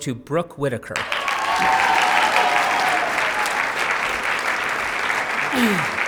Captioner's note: cheers, applause